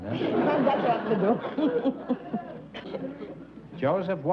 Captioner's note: laughs